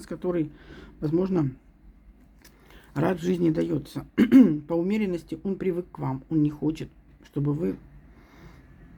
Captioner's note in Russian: откашливается